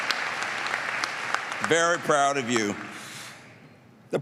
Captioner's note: applause